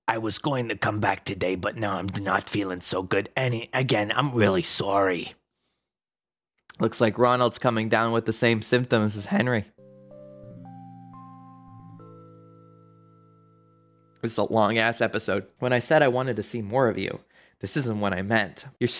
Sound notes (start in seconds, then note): none